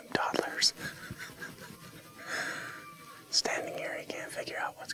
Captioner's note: laughing